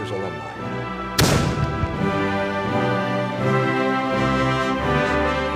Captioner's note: cannon fires